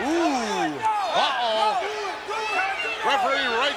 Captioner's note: ref yelling